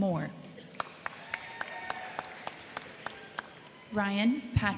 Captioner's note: crowd clapping; crowd cheering